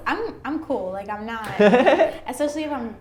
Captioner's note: laughs